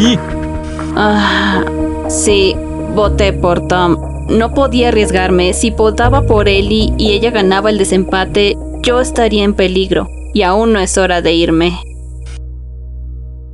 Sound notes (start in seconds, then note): 0.0 sighs